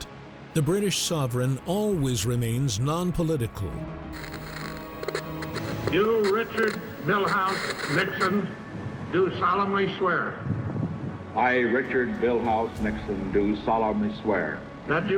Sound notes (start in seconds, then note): 4.1 radio static crackling; 4.5 dramatic music